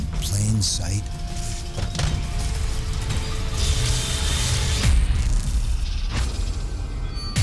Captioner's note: intense music; knocking